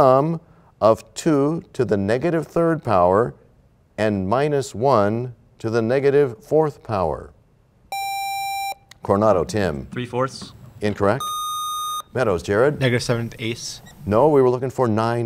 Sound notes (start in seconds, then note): none